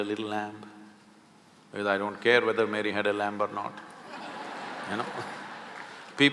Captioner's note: laughter